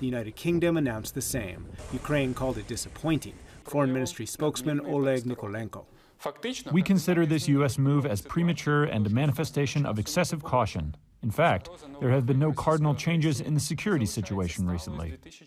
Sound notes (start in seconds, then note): 6.5 through translator